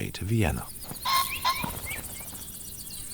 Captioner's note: pheasant cawing